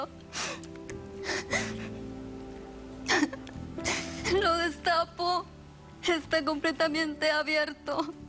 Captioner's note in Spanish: Sollozos